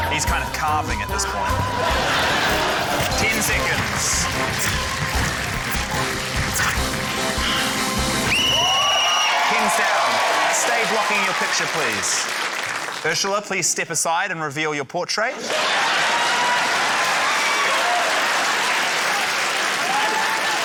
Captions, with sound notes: He's kind of carving at this point. 10 seconds. (APPLAUSE) (WHISTLE TRILLS) Pens down. Stay blocking your picture, please. Urzila, please step aside and reveal your portrait. (CHEERING, APPLAUSE, LAUGHTER)